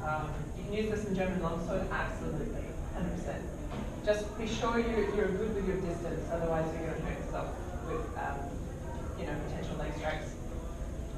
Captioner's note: murmuring and general discussion